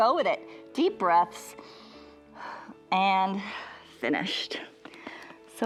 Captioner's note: inhales and exhales